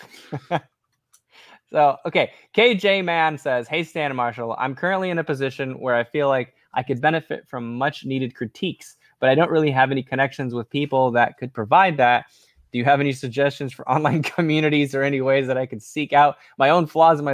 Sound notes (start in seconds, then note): 0.0 laughs